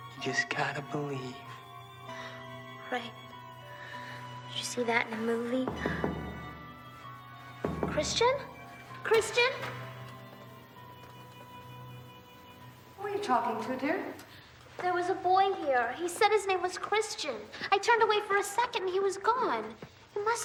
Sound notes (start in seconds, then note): 2.4 scoffs; 5.8 knocking on door; 7.6 door rattling; 10.7 expressive and eerie orchestral music